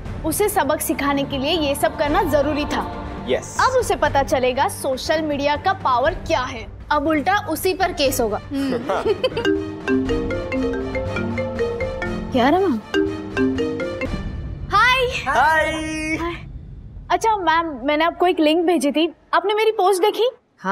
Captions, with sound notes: - This had to be done to teach her a lesson! - Yes. Now she will realise the power of social media. - A case will be filed against her! - Hmm. [giggles] [mobile phone ringing] Kiara! - Hi. - Hi! Ma'am, I sent you a link. Did you see my post?